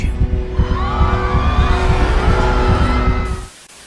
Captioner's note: people screaming